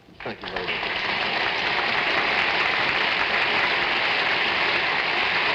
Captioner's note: audience applauding